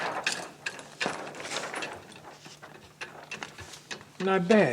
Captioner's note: paper rustling